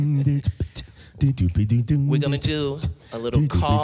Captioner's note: beatboxing softly